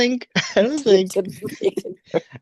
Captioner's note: laughs